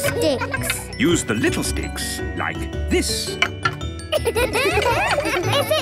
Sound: laughter

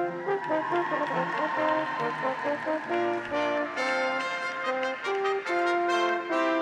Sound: audience applauds; graduates cheer

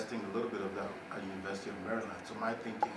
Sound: speaking faintly

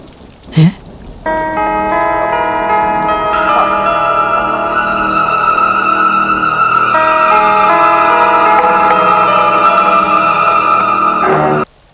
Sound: wife calling

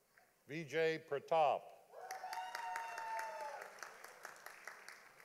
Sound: audience applauding

